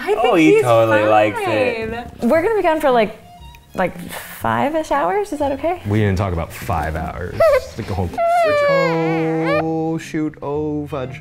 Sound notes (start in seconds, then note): 8.1 whimpers